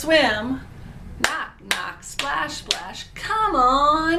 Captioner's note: claps